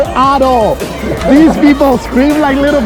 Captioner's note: laughing